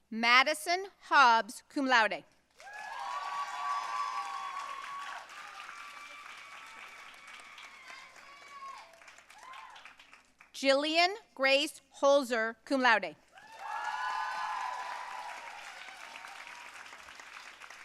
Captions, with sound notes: Madison Hobbs, cum laude. (audience cheering and applauding) Gillian Grace Holzer, cum laude. (audience cheering and applauding)